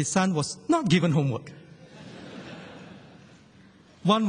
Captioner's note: laughter